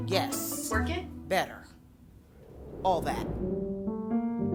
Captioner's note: air whooshing; gentle music